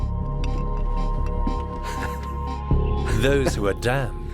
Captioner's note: Michelangelo laughs softly